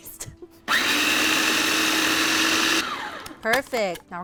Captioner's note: processor whirs